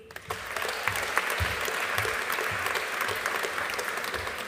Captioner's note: audience applauding